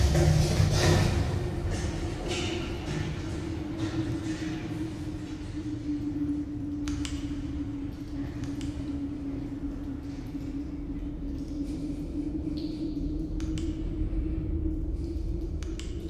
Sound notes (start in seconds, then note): 0.1 footsteps approaching; 6.8 click